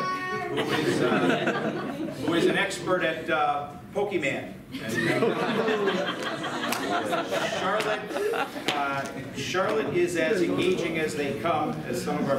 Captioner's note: laughter